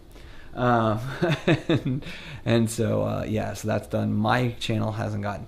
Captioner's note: laughs